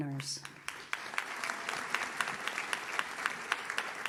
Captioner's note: audience claps